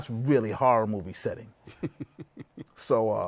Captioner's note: laughs